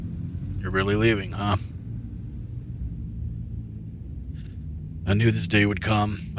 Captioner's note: his voice quieter than usual